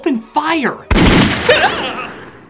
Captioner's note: gun shots